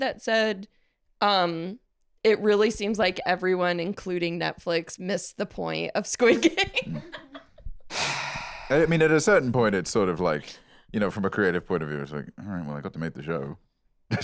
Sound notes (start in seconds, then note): 6.3 laughs; 7.9 sighs